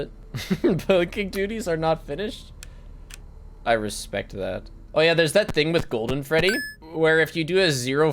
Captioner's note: laughs